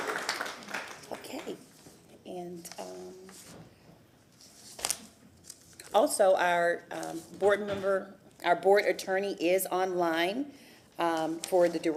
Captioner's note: applause